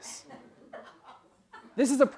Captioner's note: laugh